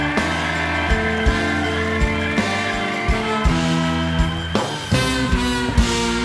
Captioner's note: cheers and applause